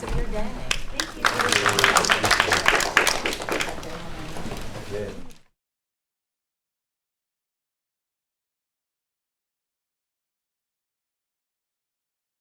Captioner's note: applause